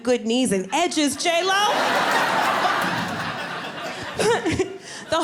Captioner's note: audience laughing